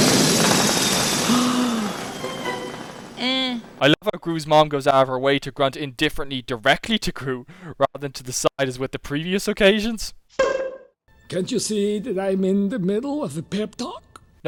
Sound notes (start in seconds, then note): 1.2 gasps; 3.3 grunts indifferently